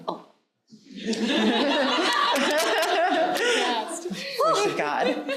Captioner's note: audience laughing